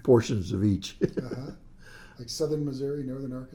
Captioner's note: laughs